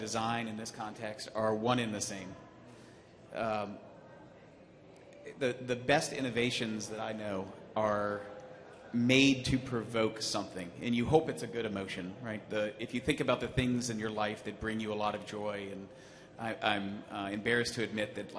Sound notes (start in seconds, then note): none